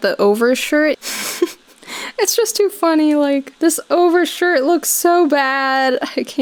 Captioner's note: chuckling